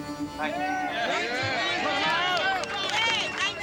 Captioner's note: overlapping chatter and applause